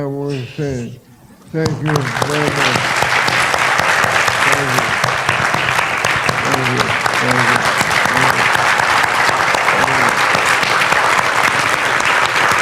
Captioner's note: background applause